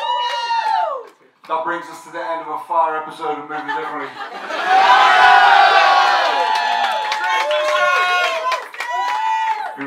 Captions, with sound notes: That brings us to the end of a fire episode of Moving Differently. (crowd cheers and applauds)